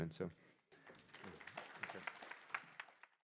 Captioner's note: applause